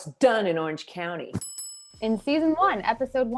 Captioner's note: bells ring